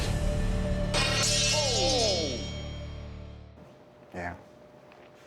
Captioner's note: blade clatters